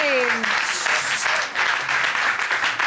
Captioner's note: audience applauding